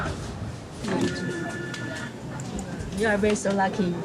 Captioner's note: phone ringing